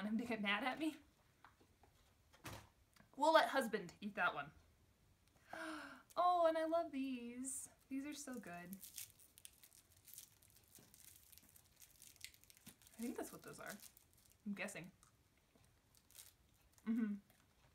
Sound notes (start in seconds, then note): 5.4 sigh; 7.8 crinkling